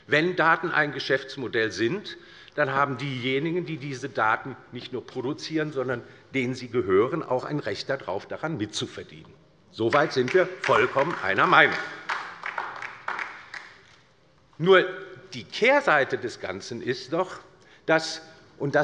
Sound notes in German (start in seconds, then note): 12.0 Beifall bei der LINKEN